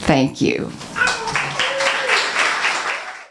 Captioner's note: applause